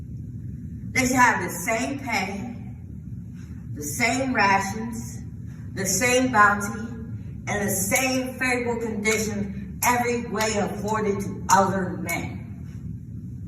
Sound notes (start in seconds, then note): 8.8 large echo